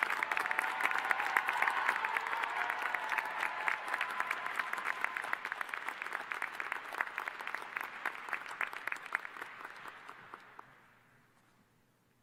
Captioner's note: applause